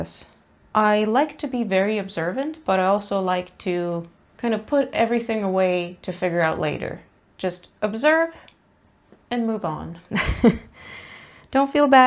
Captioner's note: laughs